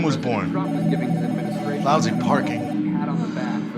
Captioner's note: phone ringing; loud guitar music